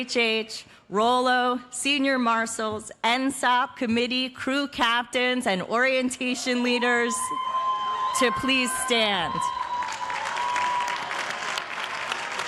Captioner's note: cheers and applause